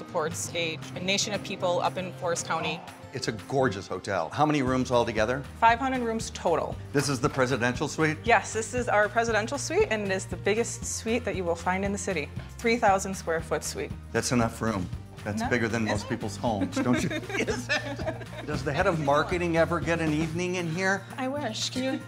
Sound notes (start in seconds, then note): 15.8 laughs